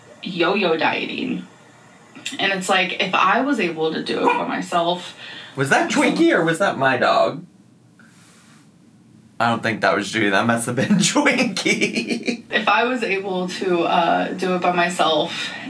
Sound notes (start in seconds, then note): 4.2 dog barks; 10.6 laughs